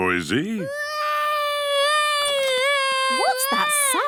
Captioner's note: baby wailing